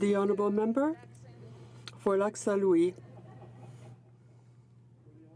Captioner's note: speaking French